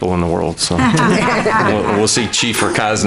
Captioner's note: board members laughing